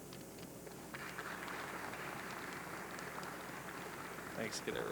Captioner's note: audience clapping